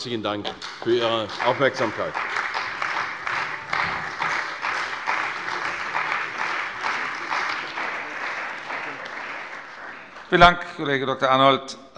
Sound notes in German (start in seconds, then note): 2.6 Beifall bei der CDU und dem BÜNDNIS 90/DIE GRÜNEN